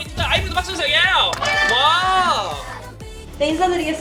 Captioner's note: clap clap~~!